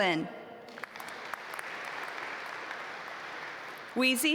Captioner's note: audience applaud